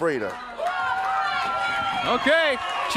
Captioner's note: crowd cheering